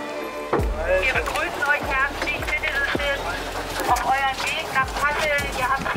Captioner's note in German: Frau über Megafon